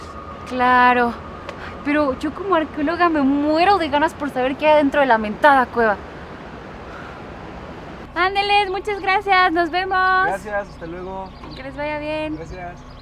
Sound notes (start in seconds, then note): 6.2 wind blowing